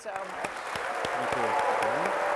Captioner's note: applause